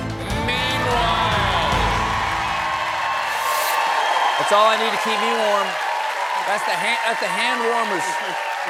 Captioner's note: cheers and applause